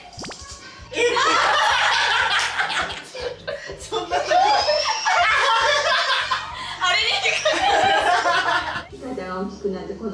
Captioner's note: laughs